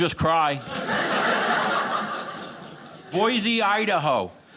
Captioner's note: audience laughing